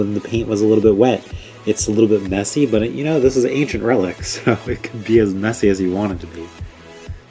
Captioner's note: laughs